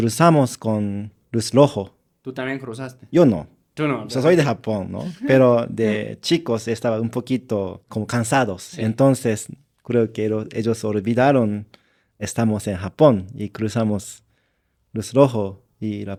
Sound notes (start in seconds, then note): 5.0 laughs